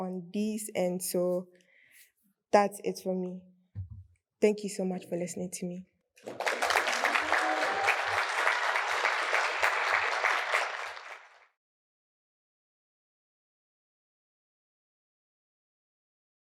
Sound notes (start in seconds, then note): 6.2 applause